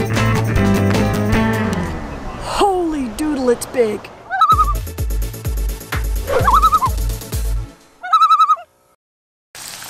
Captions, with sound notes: -Holy Doodle it's big! [loon call] [loon call] [loon call]